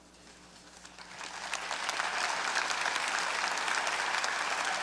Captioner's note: audience applauding